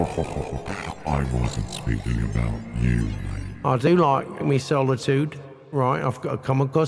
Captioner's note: chuckles